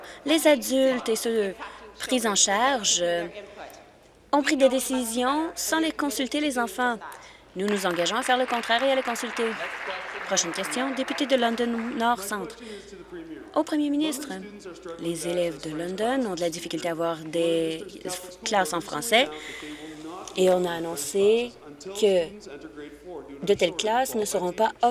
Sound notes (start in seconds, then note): 11.8 applause